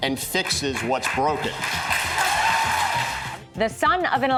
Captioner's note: cheers and applause